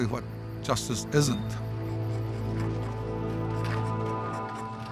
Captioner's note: tools scraping